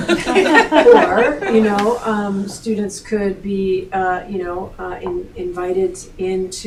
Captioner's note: laughing